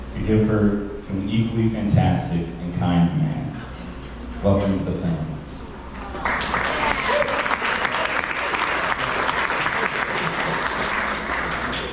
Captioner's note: applause